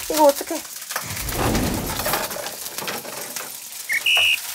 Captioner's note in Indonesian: Crackle, crackle, crackle, crackle